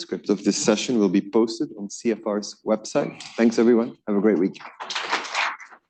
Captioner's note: applause